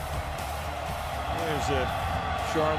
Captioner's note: cheering